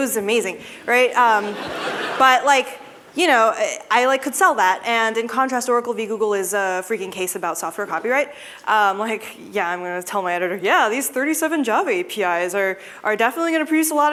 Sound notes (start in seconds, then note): 1.3 laughter